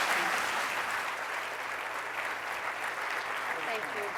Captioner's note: applause